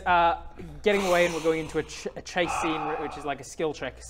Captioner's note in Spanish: suspiro de estrés